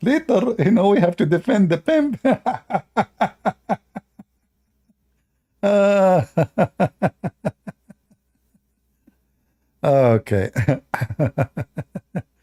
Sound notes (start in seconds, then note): 5.6 Ketawa